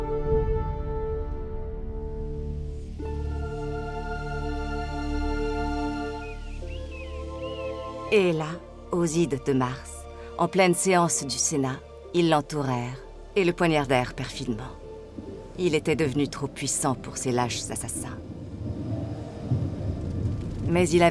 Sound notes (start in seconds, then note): 2.3 relaxed music; 2.3 wind whooshing; 6.6 birds cawing; 18.9 thunder rumbling